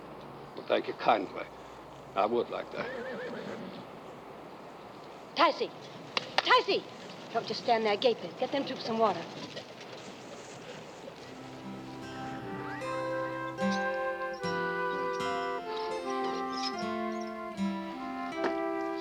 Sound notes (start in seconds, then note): 2.5 horses neighing; 6.1 clapping hands